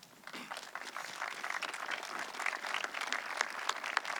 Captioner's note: audience clapping